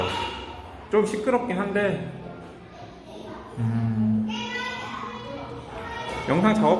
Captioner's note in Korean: 아이들 소리 ㅋㅋㅋ